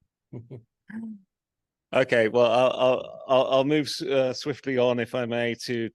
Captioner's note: laughs